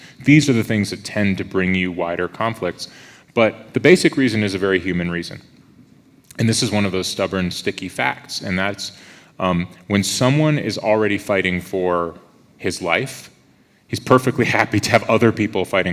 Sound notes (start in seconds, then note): none